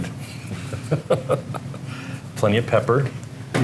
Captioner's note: chuckling